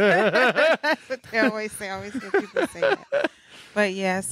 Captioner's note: laughing; speaking faintly